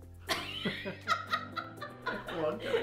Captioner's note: both laugh